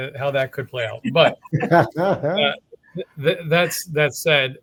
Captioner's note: everyone laughing